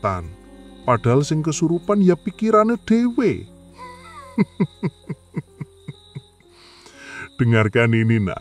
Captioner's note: laughs